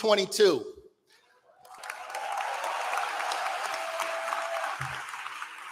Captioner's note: applause